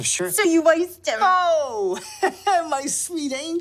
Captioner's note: laughs